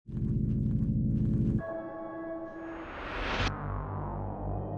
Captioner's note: woosh; eerie music